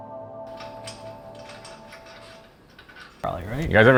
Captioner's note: metal rattling softly